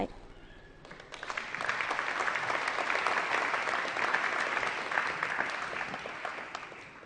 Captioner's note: applause